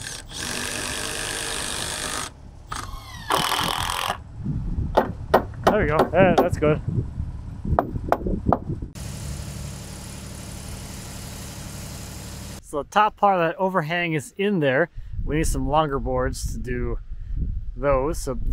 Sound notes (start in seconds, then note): 0.0 screw gun spinning; 5.3 hammer tapping; 9.3 engine humming